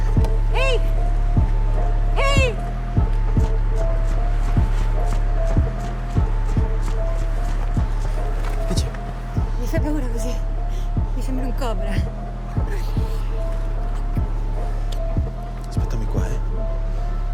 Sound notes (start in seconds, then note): 13.3 kissing